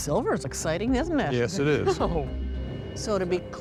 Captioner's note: laughs